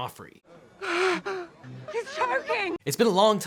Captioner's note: Joffrey gasps